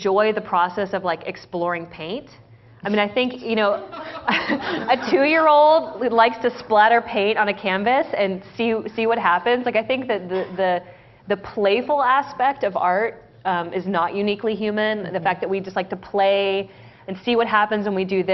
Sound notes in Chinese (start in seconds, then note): 3.8 laughter; 3.8 笑聲